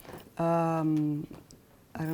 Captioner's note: whispering